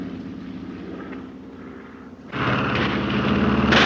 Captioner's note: planes buzzing; guns firing